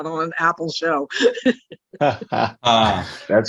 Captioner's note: laughs